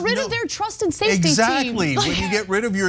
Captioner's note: laugh